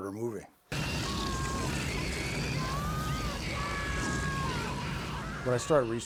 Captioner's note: screaming